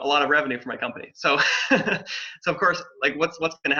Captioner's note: laughs